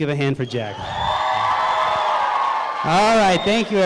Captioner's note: crowd cheering